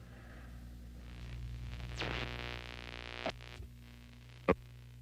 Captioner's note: electronic whirring